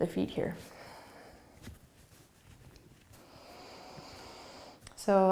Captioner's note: breathing